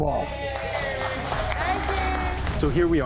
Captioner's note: cheering